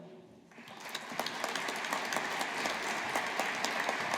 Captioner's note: audience applauding